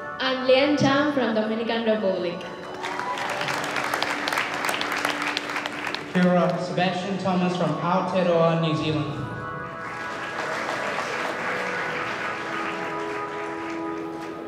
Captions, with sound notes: - I'm from Dominican Republic. (audience cheering and clapping) - Sebastian Thomas from New Zealand. (audience clapping)